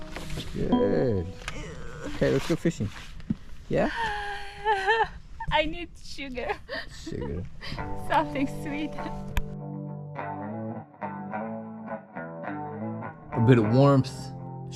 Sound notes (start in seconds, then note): 3.7 sighs